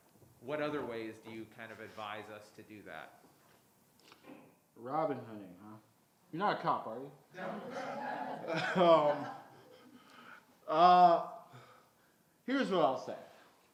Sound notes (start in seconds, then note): 7.4 crowd laughing